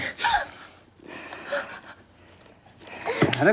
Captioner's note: Holly gasps